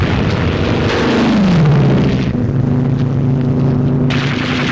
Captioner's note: plane flying overhead; guns firing